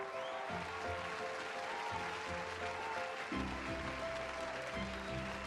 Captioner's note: audience cheers and applauds